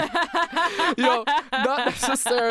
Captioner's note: laughs